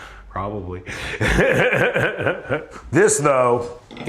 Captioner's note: laughs